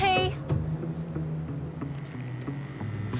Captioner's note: dial tone drones